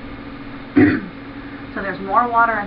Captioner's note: clearing throat